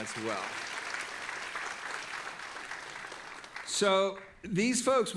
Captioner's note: audience applauding